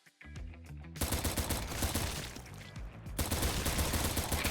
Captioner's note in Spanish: disparos de pistola